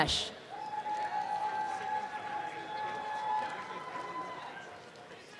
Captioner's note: applause and cheering